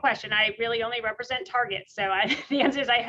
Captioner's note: laughs